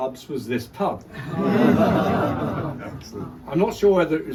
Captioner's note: crowd laughs